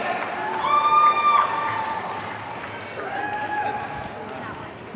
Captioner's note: audience cheering